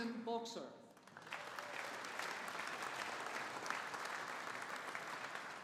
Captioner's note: audience applauding